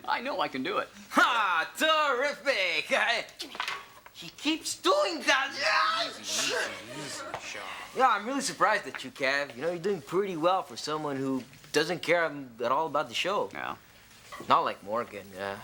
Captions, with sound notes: - I know I can do it. - Ha, terrific, h- - Give me that. - He keeps doing that. (screams) - Easy, easy, easy. - You know, I'm really surprised at you, Kev, you know? You're doing pretty well for someone who doesn't care at all about the show. - Well... - Not like Morgan.